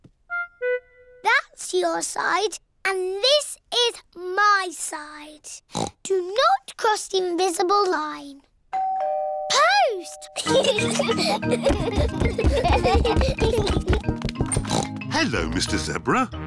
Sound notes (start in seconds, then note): 5.7 oinks; 8.7 doorbell rings; 10.4 both giggling; 14.6 oinks